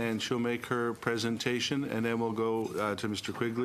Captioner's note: speaking in french